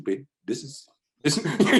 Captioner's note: laughs